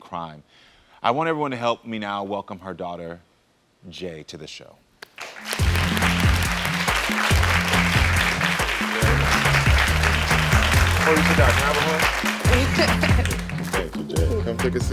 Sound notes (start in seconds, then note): 5.1 crowd applauding; 5.4 upbeat music